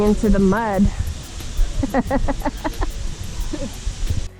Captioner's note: chuckling